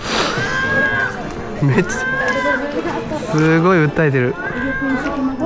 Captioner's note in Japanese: 鼻息